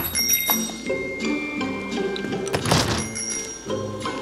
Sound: bell chiming

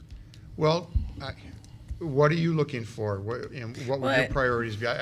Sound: none

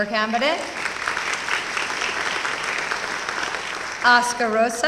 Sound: applause

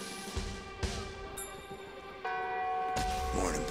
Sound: bells ringing

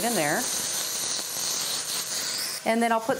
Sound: sizzle

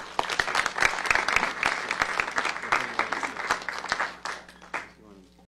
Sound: applause

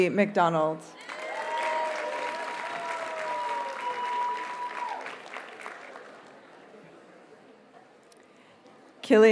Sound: audience cheers and applauds

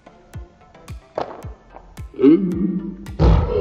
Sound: toy pops

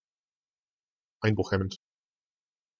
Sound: fast Pronunciation

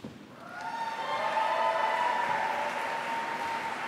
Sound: applause

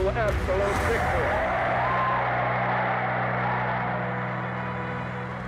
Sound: audience cheering

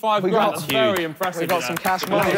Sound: clapping

